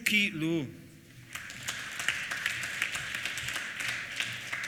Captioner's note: applause